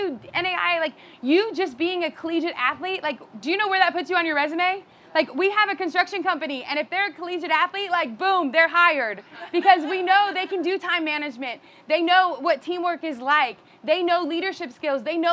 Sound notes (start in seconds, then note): 9.4 audience laughing